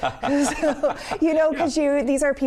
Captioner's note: laughs